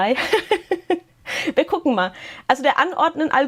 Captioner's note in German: Gelächter